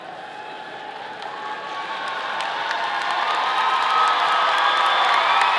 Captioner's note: audience cheering